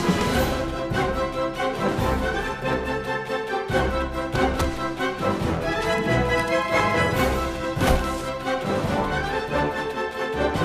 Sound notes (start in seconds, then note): 0.1 exciting music; 7.6 struggling sounds